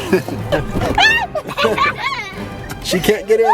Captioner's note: laughing